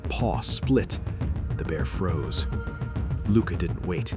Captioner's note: urgent, rapid tone